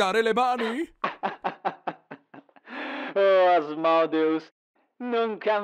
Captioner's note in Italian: risata